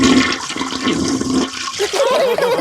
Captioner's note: toilet flushing; laughter